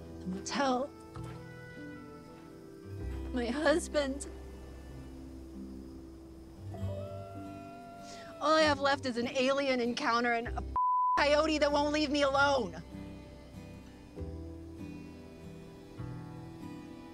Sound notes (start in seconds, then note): 6.7 coyote howling in distance; 13.0 tranquil music playing